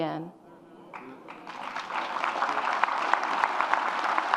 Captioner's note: audience applauds